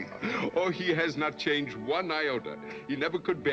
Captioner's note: chuckling